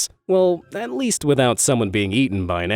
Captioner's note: none